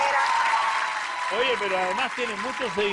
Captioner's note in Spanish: Aplausos